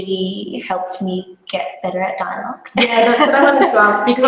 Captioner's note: laughs